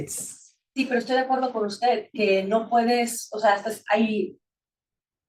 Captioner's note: attendee speaking Spanish